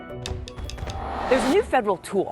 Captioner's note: logo whooshes